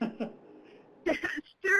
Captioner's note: laughs